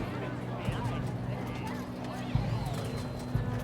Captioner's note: chatter; gentle music